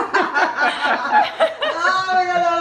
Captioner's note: laughs